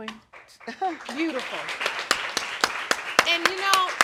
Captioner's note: audience applauding; chuckles